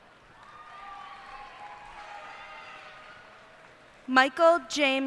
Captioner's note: cheers and applause